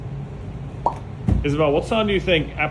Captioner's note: pop!